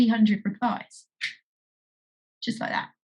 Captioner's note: finger snapping